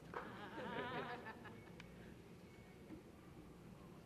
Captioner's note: laughter